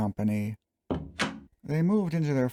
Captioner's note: door closing